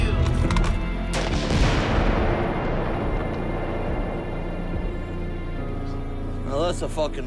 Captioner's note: gun clicks; gun bangs; target blasts